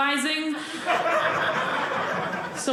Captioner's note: audience laughing